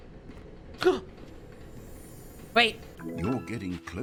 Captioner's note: gasps